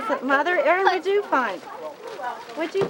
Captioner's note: laughs